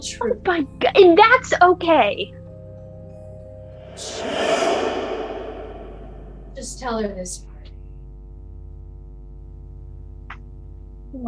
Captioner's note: a swooping whoosh; low, vibrating hum